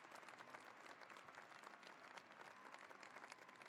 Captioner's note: cheering and applause